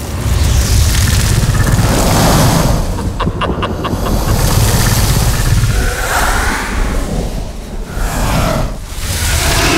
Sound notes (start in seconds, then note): 2.9 laughter; 5.6 roar